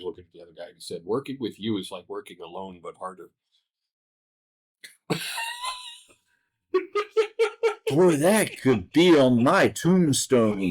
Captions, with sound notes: looking at the other guy and he said, "Working with you is like working alone but harder." [laughter] "Boy, that could be on my tombstone."